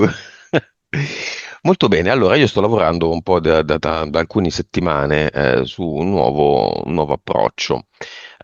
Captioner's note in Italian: risate